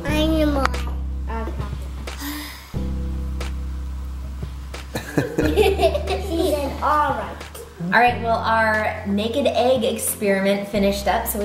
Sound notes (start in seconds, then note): 4.9 laugh